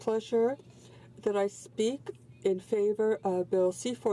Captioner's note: speaking french